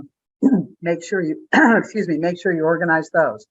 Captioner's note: clears throat